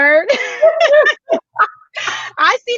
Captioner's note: laughs brightly